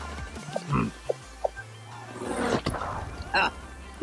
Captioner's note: grunting